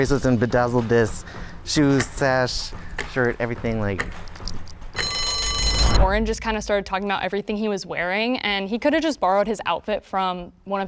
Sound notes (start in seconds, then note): 4.9 bell rings